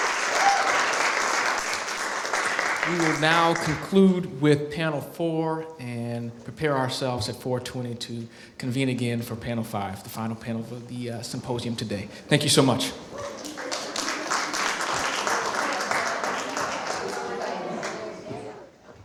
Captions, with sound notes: We will now conclude with panel four and prepare ourselves at 4:20 to convene again for panel five, the final panel of the symposium today. Thank you so much. [APPLAUSE]